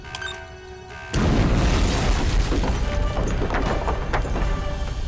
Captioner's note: explosion